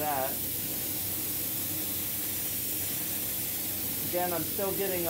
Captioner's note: spray gun hissing